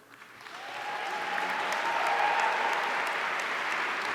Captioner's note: audience cheering